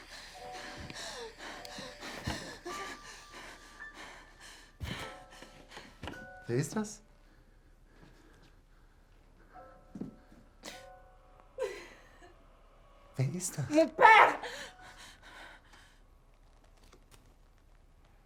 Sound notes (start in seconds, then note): 7.0 speaking German